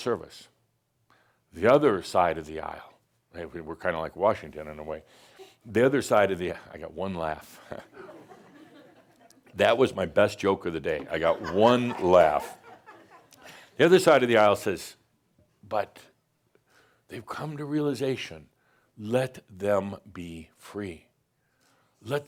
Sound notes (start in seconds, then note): 4.8 someone giggles; 7.8 some chuckles; 11.0 more chuckles